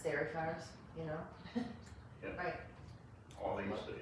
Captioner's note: laughs